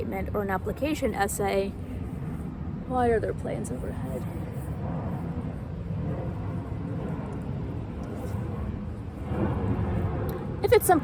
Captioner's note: plane noise